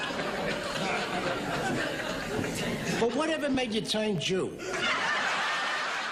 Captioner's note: crowd laughs